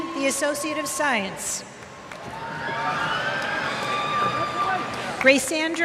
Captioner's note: applause